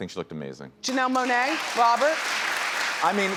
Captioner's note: audience applauds